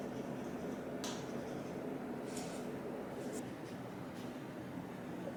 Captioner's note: light scratching noises